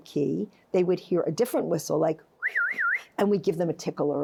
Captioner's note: whistles